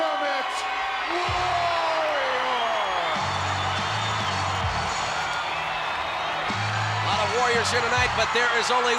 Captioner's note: applause